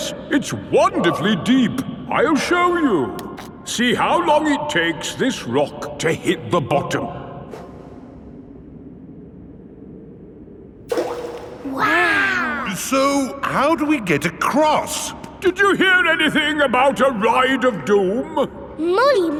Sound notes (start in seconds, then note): 10.9 rock plops